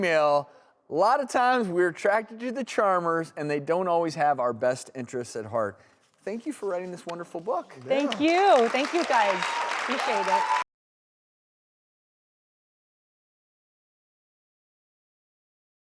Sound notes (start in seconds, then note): 9.6 applause